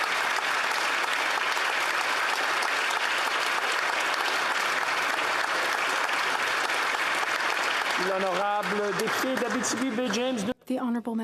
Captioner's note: applause